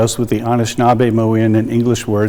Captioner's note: speaking in indigenous language